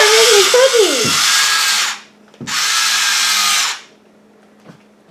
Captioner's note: electric Spritz Noise